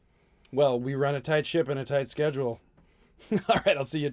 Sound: laughs

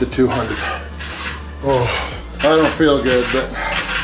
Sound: groans

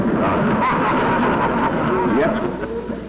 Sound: laughter

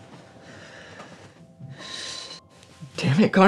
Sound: deep sigh

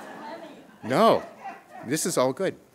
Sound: laughter

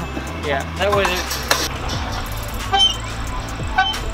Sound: squeaking

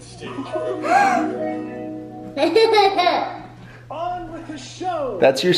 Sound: gasping

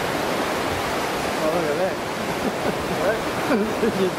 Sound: waves crashing; laughing

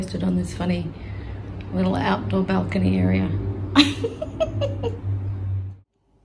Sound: giggles

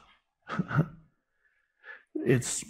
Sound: Eckhart laughs

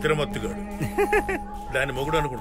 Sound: laughs

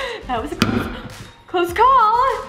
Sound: gasp

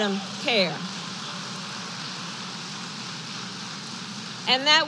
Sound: applause

